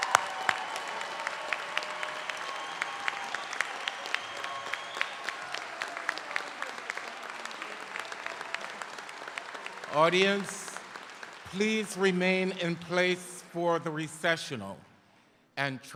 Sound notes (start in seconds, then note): 3.5 applause; 3.5 cheers